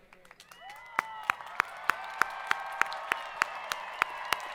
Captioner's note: students cheering